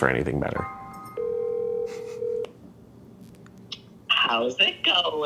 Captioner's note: call ringing